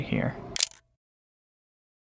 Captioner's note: camera shutter